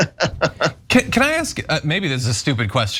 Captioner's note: laugh